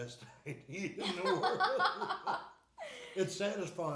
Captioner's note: laughing